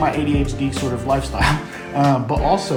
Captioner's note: laughs